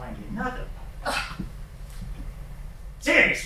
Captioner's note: scoff